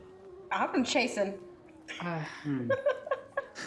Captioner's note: laughs